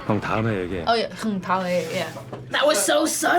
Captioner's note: speaks Korean